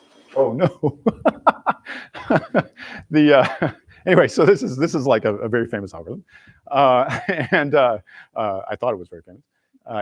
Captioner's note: laughs